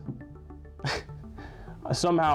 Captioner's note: dumb giggle